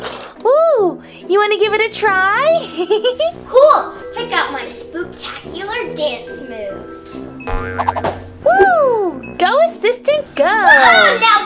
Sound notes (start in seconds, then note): 2.5 Vampirina giggling; 7.4 comical bouncing